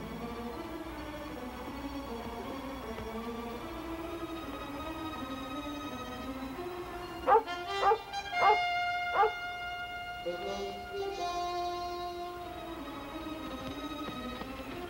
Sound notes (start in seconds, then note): 8.3 Shep barking